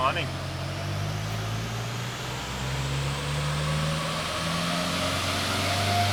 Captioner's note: engine accelerates